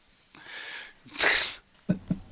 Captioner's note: laughter